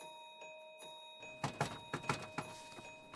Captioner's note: knocks on door